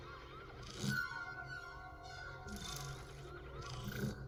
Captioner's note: suspenseful music; effects whirring